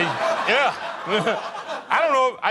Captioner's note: laughing